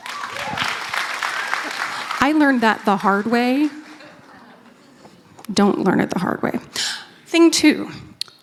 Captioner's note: applause